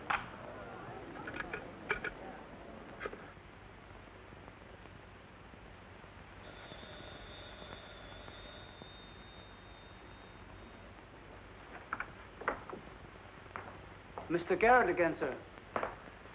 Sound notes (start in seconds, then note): 0.3 sound of phone hanging up; 6.4 phone ringing